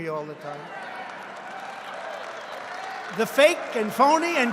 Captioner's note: applause